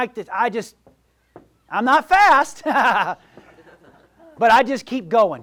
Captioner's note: laughs